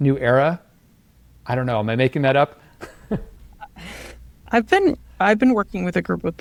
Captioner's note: chuckles